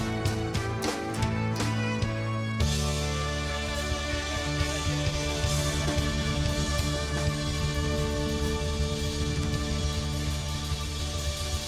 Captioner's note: audience applauding